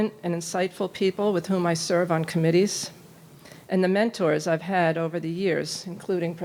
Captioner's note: none